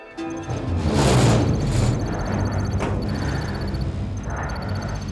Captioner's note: electronic beeping; heavy breathing